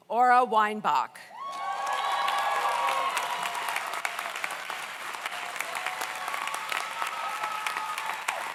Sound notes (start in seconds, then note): 1.4 audience cheers; 1.5 audience applauds